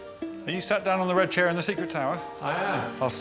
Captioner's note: playful music; circle slapping on floor